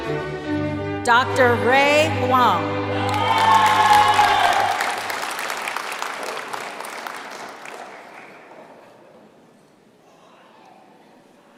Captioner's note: applause